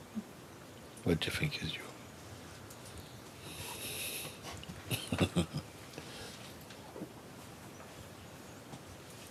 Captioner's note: laughs